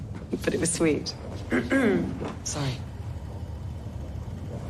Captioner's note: clears throat